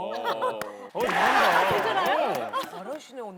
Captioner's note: applause